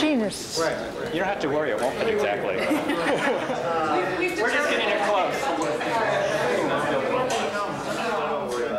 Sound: laughter

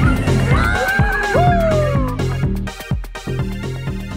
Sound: men cheering

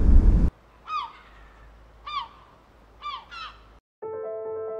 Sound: seagulls squawking

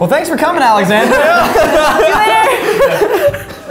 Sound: laughing

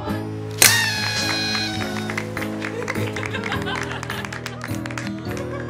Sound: party horn, laughter, applause

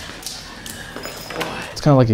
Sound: nails tapping

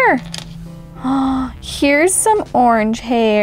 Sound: gasps

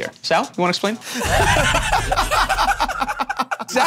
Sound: Joe and Q laugh

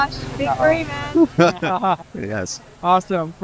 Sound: laughs

